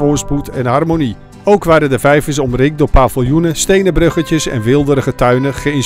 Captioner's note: voiceover